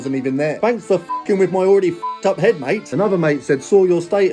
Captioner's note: beeps